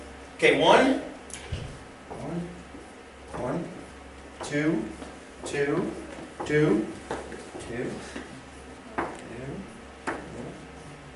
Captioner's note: tapping